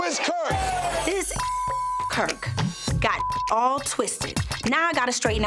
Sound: beep

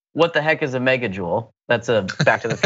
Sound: laugh

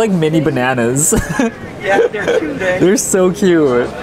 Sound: laughing

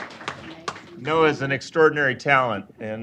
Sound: applause

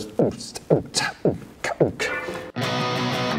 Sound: beatboxes; upbeat music

